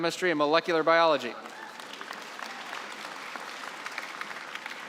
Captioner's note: applause